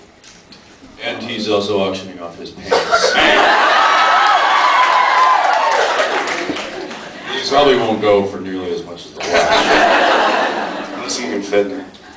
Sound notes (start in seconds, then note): 5.3 laughs, screams; 9.2 laughs